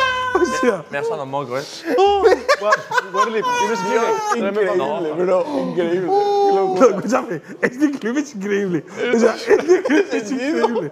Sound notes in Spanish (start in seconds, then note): 3.3 ríen y hablan a la vez